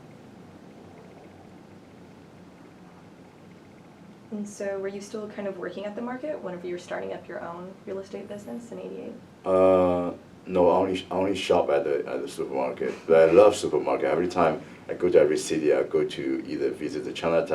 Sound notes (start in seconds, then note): 12.3 laugh